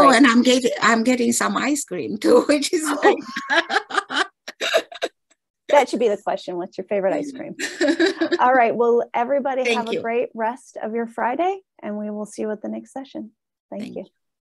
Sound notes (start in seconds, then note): 2.9 laughs; 7.5 laughs